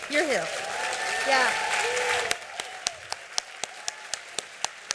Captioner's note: cheering and applause